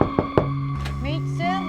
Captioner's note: knock on door